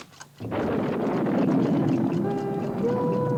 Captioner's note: thunder rumbles